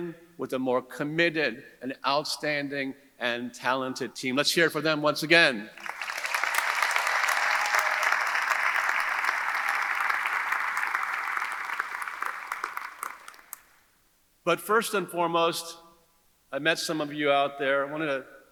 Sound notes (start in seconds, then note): 5.8 audience cheering; 5.8 audience applauding